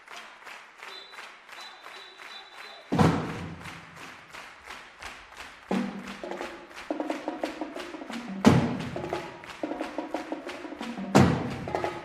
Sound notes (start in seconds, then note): 4.1 rhythmic clapping; 9.5 drumming